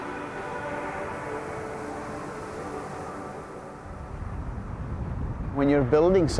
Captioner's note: waves softly crashing